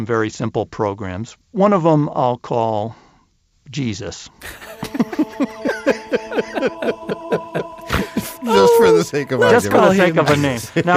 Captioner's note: laughing